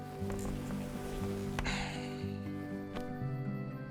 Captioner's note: sighs